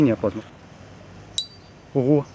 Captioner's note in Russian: дзынь!